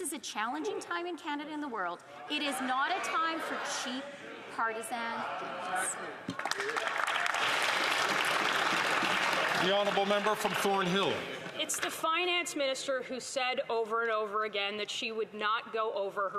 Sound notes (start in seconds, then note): 10.9 some Applause